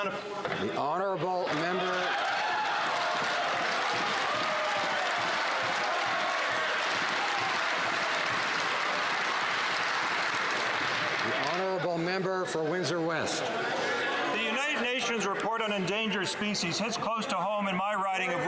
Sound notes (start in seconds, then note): 10.0 some Applause